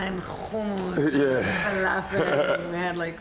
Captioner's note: laughing